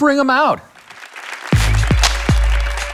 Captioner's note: audience applauds; electronic music